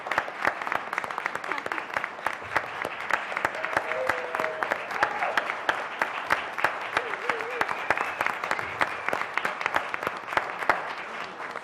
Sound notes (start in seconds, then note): 0.0 applause; 0.0 laugh; 1.2 applause